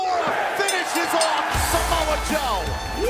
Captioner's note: bell ringing